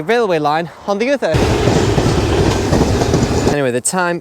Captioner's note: passing Train